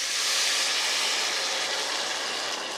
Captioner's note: soup sizzles